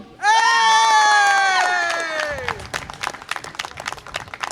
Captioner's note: audience applause and cheer